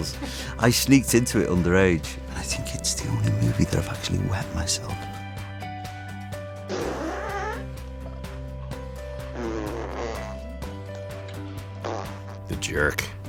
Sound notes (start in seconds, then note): 6.6 farts; 9.2 farts